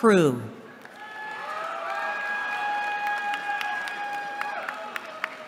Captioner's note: cheering